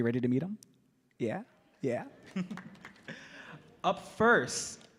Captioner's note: audience clapping